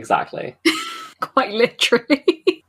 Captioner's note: lauging